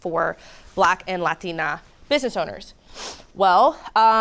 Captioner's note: sniffs